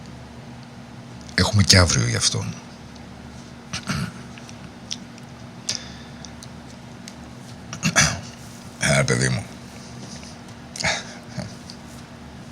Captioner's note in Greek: βήχας